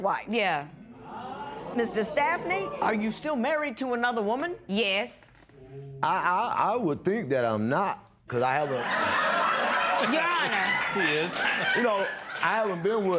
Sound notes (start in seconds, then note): 8.5 laughter